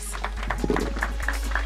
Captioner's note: applause